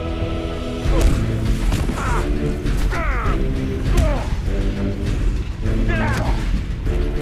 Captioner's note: punches thudding; both grunting